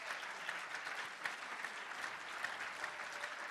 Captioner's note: applause